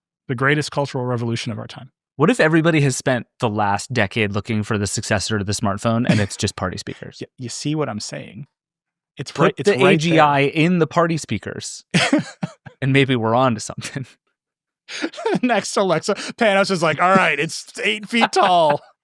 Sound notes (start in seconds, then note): 11.8 laughing